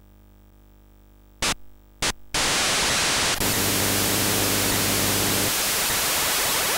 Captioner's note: static sound